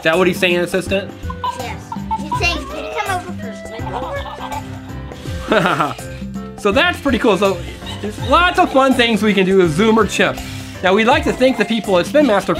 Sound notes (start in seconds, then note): 5.9 laughs